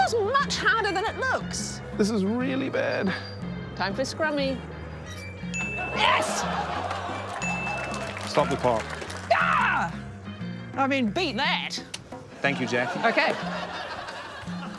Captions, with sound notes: This is much harder than it looks! - This is really bad. - Time for scrummy. (DING!) Yes! (DING!) - I've stopped the clock. - (EXCLAIMS) I mean, beat that. - Thank you, Jackie. - OK.